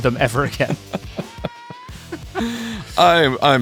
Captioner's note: attendees laughing